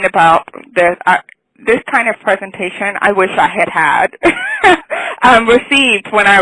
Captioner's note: laughs